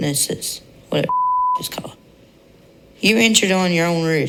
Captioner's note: beep